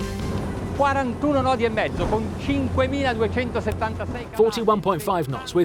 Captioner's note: speaking in foreign language